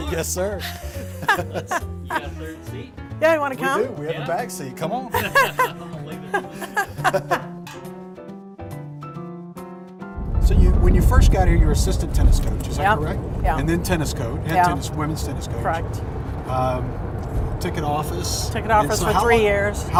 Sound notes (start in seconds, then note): 0.6 all laugh; 6.1 laughs; 8.8 laugh